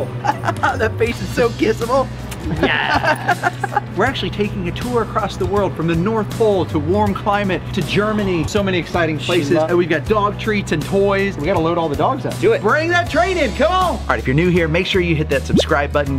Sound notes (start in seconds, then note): 2.3 Rocky smooches; 2.4 Rocky laughs; 2.4 laughs